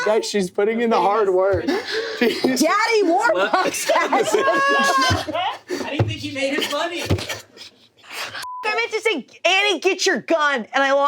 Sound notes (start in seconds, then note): 5.0 everyone laughs; 8.4 beep